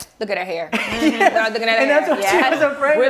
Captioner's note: laughter